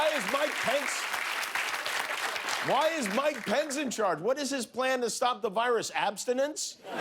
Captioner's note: cheers and applause